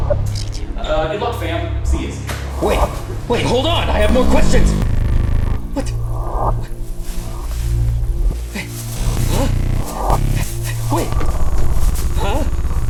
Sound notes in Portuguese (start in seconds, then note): 4.5 Heavy distorção de áudio e pular; 6.5 sussurrando; 8.9 Distorção de áudio